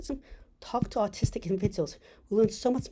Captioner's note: taps